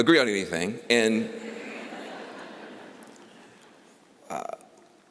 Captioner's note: laughter